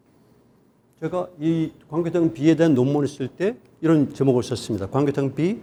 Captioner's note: speaking in Korean